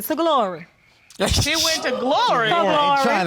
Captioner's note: laughs